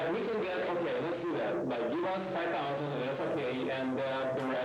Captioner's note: men chatter